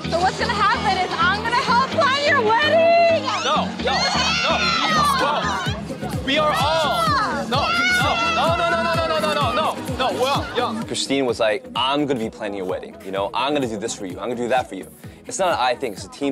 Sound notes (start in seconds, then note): 2.4 screams with delight